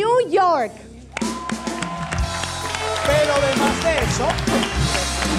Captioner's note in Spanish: Aplausos